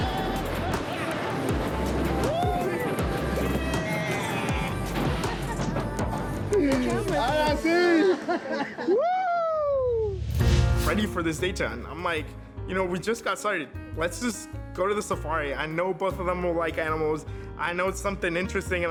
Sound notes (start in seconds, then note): 7.5 speaking Spanish